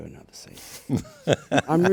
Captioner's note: laughs